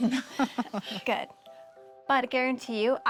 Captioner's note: laughs